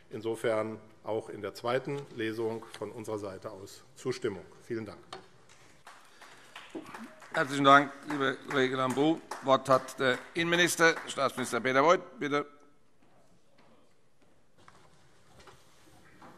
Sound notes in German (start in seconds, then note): 5.8 Beifall AfD